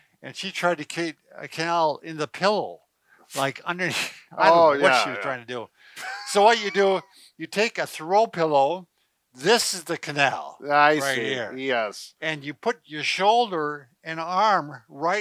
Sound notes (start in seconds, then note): 6.0 laughs